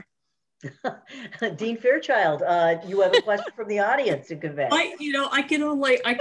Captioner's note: laugh